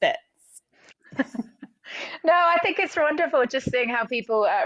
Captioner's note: chuckles